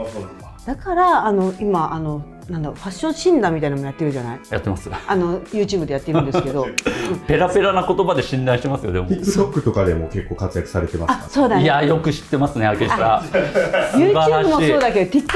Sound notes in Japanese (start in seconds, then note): 5.9 笑い; 12.8 笑い